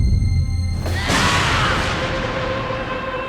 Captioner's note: screaming